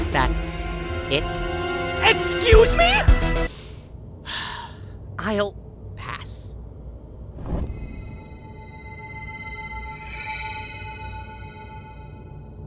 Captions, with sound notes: That’s… it? EXCUSE ME?! [SHARP INHALE] I’ll… pass. [ATMOSPHERIC RINGING] [SHING!]